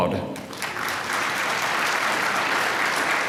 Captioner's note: applause